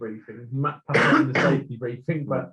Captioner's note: coughing